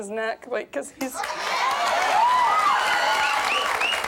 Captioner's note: cheering